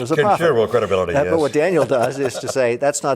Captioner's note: laughing